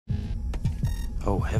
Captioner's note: intense music; bomb beeping